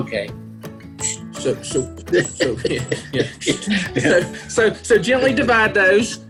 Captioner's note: laughter